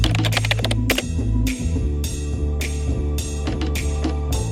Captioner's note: keyboard clicking; upbeat music